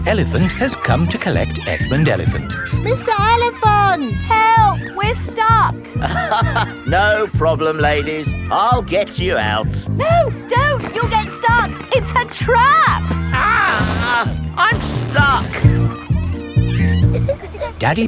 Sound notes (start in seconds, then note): 6.0 chuckles